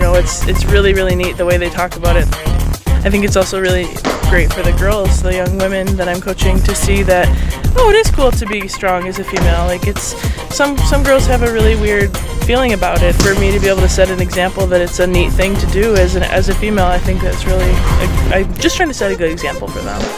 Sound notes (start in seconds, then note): 3.9 feet stomping; 9.3 feet stomping; 13.0 weights clanging